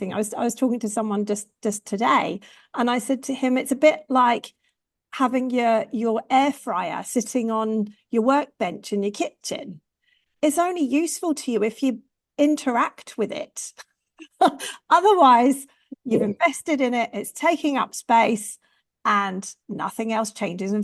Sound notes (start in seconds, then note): 13.6 chuckles